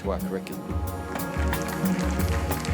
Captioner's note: applause